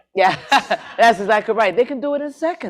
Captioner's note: laughs